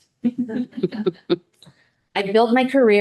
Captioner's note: people chuckling